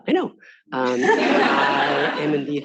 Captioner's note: all laughing